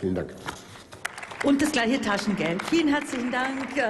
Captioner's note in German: Applaus